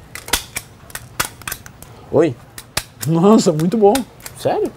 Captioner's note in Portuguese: barulho de grampeador